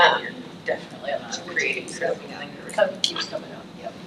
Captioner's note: faintly speaking